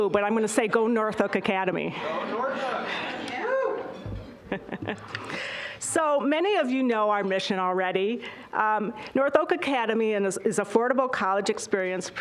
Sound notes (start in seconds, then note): 3.9 chuckling